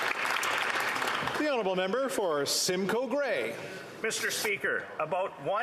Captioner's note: applause